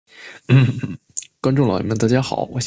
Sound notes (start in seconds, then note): 0.1 breaths; 0.4 cough cough cough